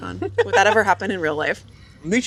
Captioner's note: laughs